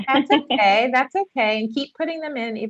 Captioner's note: laughing